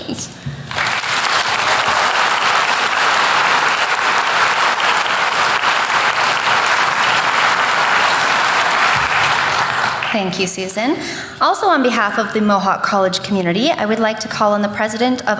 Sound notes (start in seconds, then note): 0.6 applause